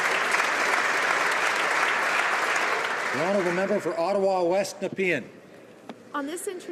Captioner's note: applause